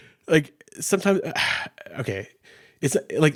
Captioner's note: sighs